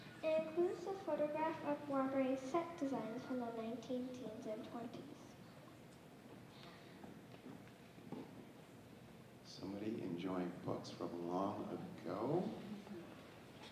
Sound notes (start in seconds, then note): none